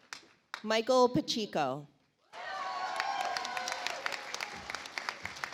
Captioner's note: audience applauds